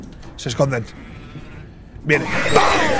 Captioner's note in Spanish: Gruñido; grita